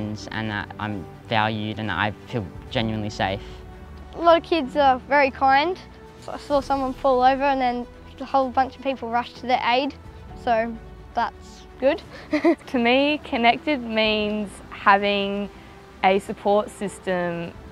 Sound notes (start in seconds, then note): 12.1 laughs